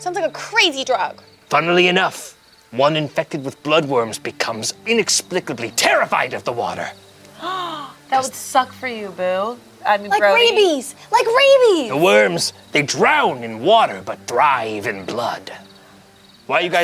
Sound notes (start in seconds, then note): 7.4 gasps